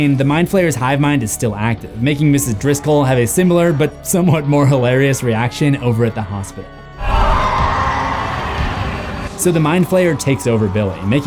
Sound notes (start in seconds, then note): 7.0 Doris screaming